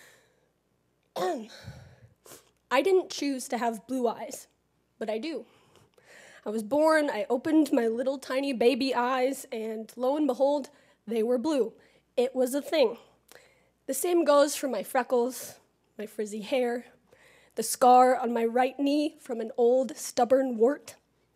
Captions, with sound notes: [COUGH] I didn't choose to have blue eyes, but I do. I was born, I opened my little tiny baby eyes and lo and behold, they were blue. It was a thing. The same goes for my freckles, my frizzy hair, the scar on my right knee from an old stubborn wart.